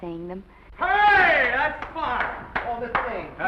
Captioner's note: clapping obnoxiously